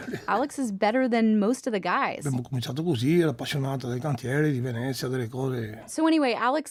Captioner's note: speaks in Italian; speaks in Italian